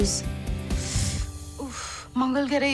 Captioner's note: Neetu sucks teeth